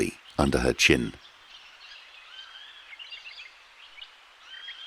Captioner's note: wildlife chirping